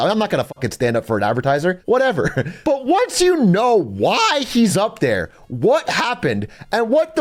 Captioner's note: laughs